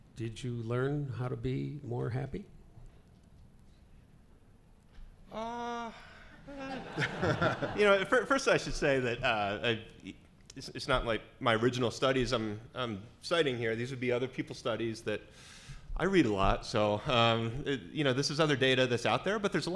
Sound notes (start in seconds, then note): 7.0 laughing